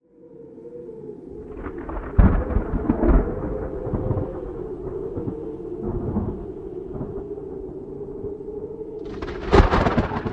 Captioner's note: sounds of thunder